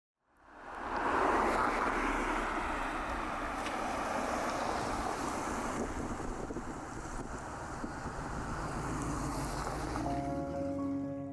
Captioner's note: cars driving past; soft piano music